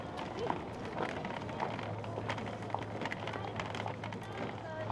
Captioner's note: footsteps thumping